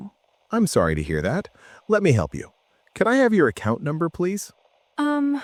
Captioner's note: tech support voice